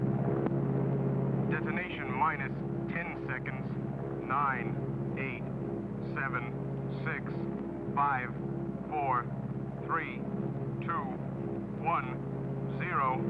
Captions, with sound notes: - [Man On Radio] Detonation minus 10 seconds. Nine, eight, seven, six, five, four, three, two, one, zero.